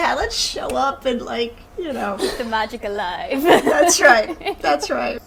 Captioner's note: laughing